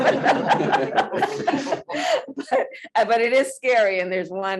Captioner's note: laughter